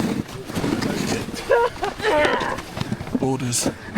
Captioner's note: person laughs